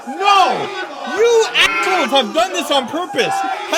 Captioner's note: sheep noise